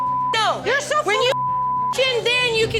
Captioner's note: beep